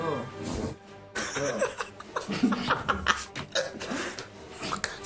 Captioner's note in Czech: smích